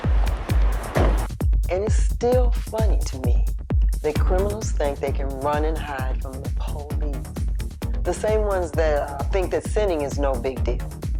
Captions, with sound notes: (door thuds) (upbeat music continues) - And it's still funny to me, the criminals think they can run and hide from the police. The same ones that think that sinning is no big deal,